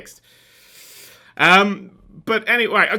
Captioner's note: deep, sharp intake of breath